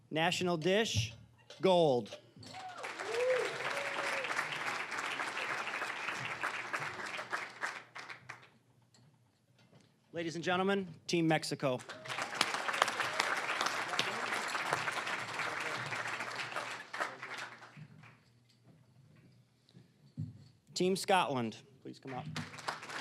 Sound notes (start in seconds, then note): 2.4 cheering, applause; 5.4 applause; 11.7 applause